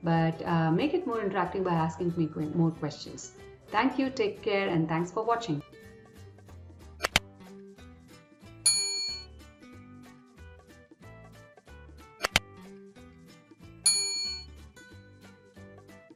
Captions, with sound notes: but make it more interacting by asking more questions. Thank you, take care, and thanks for watching. (lighthearted music) (bell dinging) (bell dinging)